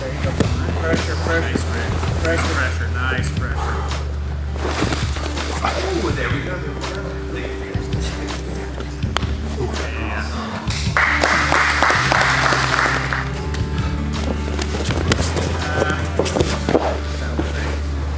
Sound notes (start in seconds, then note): 10.9 spectators applauding; 13.5 warm pensive music